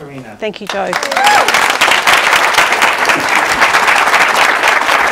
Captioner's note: audience clapping